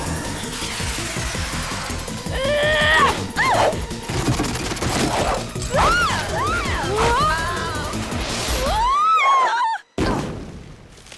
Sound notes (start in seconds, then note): 2.2 screaming